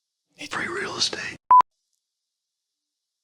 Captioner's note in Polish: szeptem